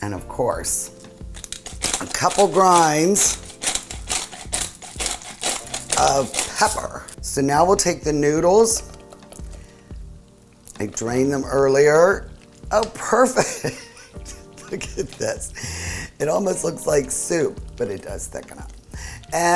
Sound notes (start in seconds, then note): 3.5 grinder roaring; 13.8 laughing